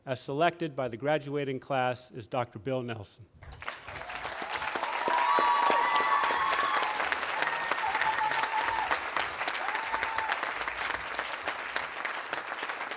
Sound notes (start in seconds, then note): 3.6 audience applauding and cheering